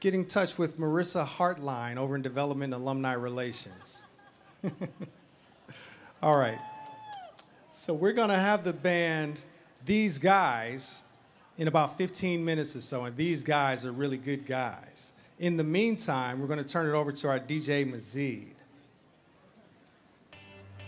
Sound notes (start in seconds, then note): 3.5 chuckles